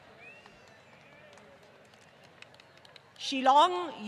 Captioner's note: applause